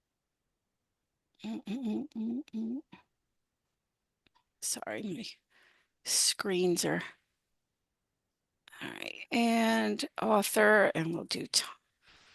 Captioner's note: humming